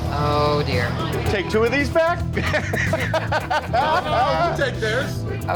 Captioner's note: laughing